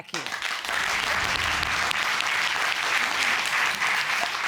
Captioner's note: applause